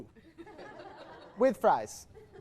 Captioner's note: more small laughter